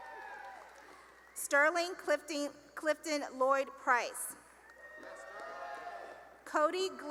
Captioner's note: cheering; cheering and applause